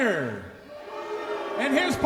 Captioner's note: audience jeers